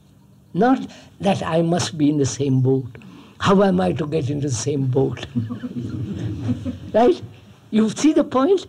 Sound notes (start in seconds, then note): 5.2 laughs; 5.2 laughter